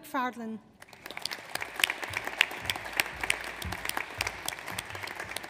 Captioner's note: audience applauds